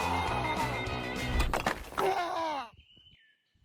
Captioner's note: wet bone smash